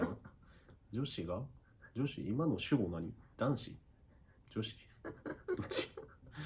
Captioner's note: laughs